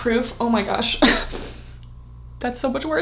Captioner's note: chuckles